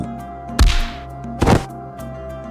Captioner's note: punch; thud